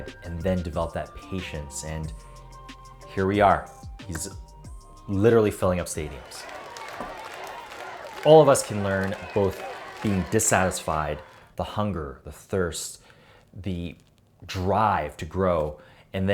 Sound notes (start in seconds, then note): 5.7 crowd cheering